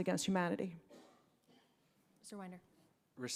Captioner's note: coughing